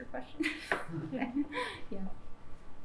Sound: laughs

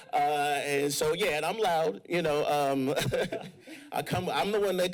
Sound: laughs

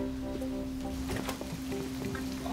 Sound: thunder rumbles

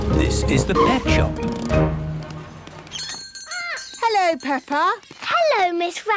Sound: bell jingling

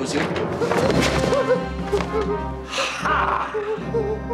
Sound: whimpers

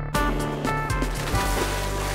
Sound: splash

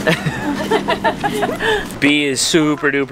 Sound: laughter

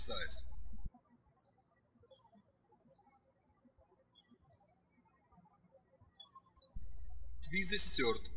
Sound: birds chirping

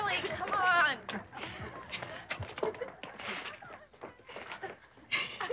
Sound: girls laughing

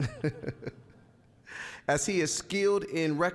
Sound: chuckling

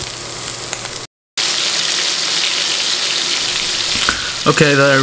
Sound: sizzling

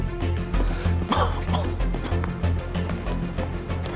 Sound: coughs

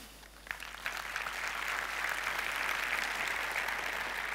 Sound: applause

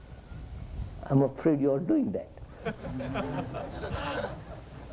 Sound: laughter

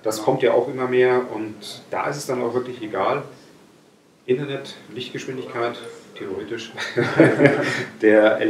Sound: laughing

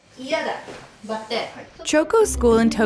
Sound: speaking foreign language

